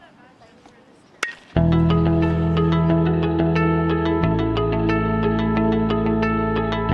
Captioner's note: bat pings; soft introspective music